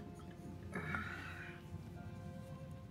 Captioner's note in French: grogne